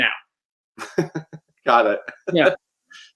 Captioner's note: chuckles